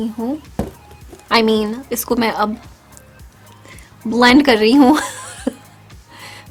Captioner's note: laughs